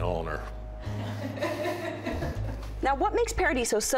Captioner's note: laughter